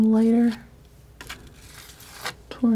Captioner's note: scratching